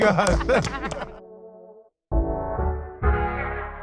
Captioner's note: all clap